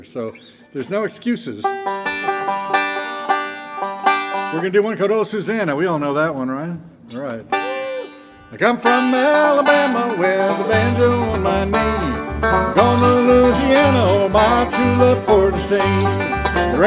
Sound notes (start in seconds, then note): 1.5 gentle banjo music; 7.5 audience member cheers